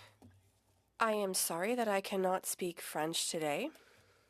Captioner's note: speaking French